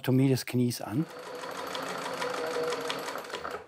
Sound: sewing machine rattles

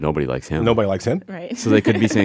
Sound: laughs

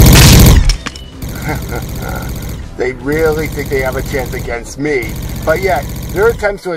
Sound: chuckles

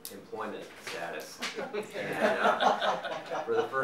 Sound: audience laughing

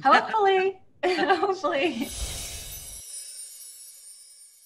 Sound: all laughing

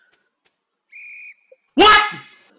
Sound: whistle

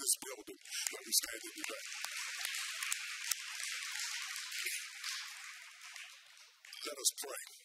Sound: audience applauds

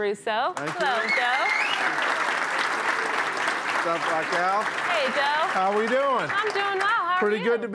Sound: applause

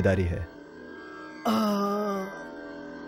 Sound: groans

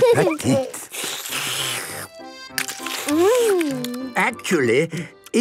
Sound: slurping

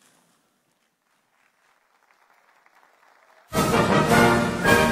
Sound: audience applauding; lively orchestral music

